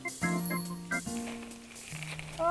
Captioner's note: bell rings